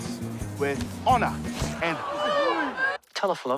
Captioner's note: exclaiming